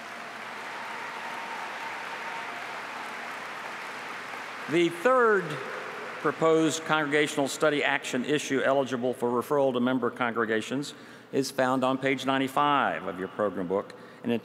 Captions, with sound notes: >> THANK YOU VERY MUCH. THANK YOU. [APPLAUSE] THE THIRD PROPOSED CONGRESSIONAL STUDY/ACTION ISSUE ELIGIBLE FOR REFERRAL TO MEMBER CONGREGATIONS